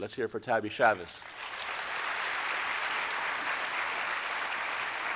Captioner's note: audience applauding